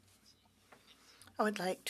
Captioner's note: speaking French